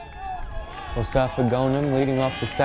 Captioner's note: crowd cheers